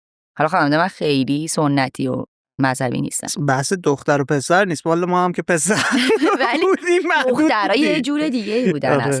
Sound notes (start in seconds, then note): 4.1 laughs